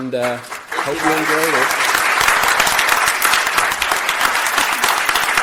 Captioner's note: audience applauding